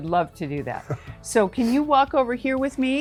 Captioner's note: chuckles